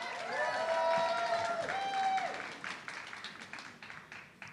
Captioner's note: audience clapping